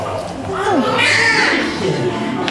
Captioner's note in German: Babyschreien; Leises Stimmengewirr